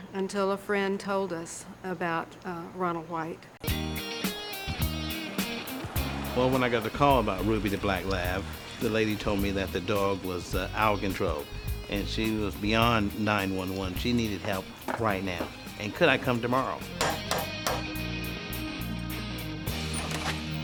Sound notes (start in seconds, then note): 3.7 upbeat music; 16.9 knocking door